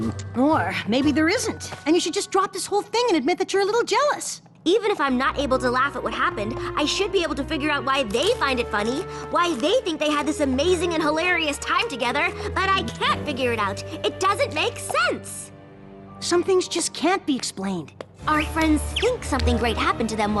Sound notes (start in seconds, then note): none